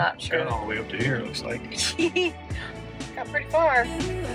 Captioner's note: chuckling